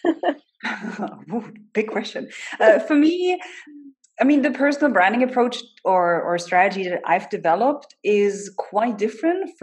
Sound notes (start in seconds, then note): 0.0 laughs